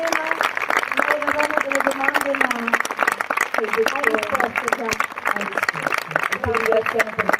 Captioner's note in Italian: applausi